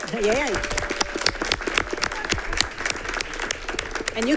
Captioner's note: all clapping